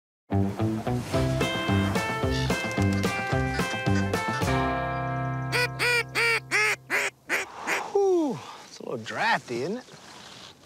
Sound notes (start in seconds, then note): 2.1 geese honking; 5.5 duck call squawking